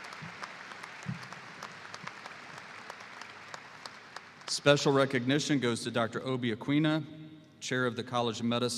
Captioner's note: applause